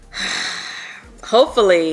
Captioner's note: sighs